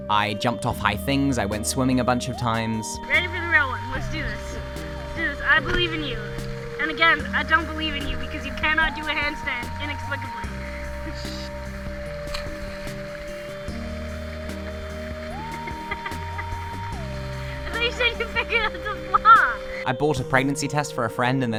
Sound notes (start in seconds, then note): 15.6 laughing